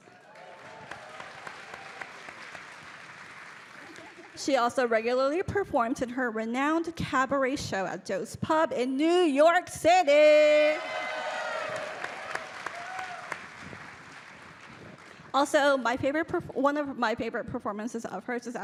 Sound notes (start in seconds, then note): 0.0 audience cheering; 10.6 audience cheering